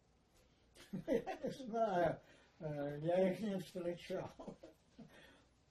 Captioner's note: laughing